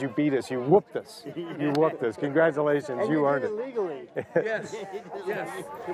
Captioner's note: laughter